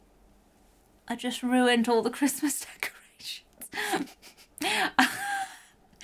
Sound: chuckles

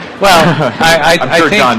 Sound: laughter

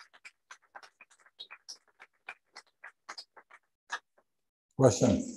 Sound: applause

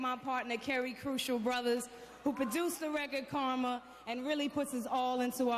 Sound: cheers and applause

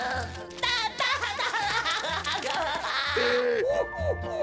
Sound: SpongeBob laughing

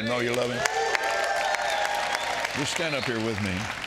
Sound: audience cheers and applauds

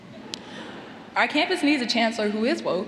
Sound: laughter

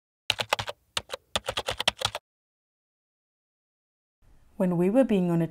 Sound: typing sound

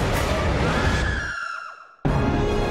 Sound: Redead scream

